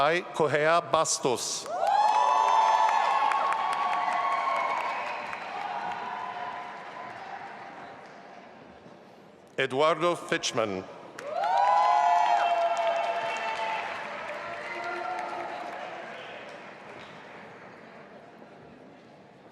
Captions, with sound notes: Raií Corrêa Bastos. (audience applauding and cheering) Eduardo Fichmann. (audience applauding and cheering)